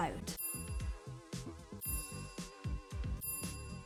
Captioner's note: bells dinging